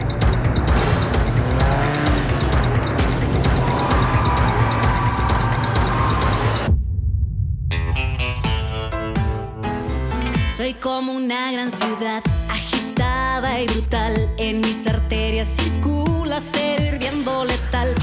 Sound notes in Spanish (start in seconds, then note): 0.0 Ruido del vehículo